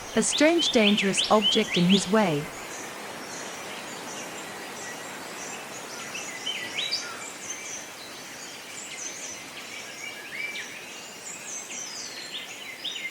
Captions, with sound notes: a strange dangerous object in his way but, after checking out that it does not represent a threat, (birds sounds and chirps)